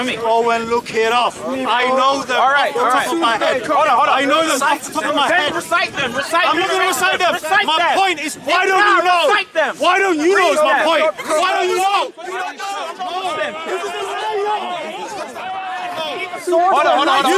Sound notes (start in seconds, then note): 13.7 crowd talking